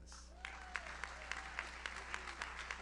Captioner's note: audience cheers; audience applauds